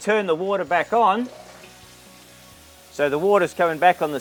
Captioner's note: water running